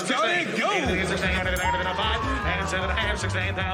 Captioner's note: calling continues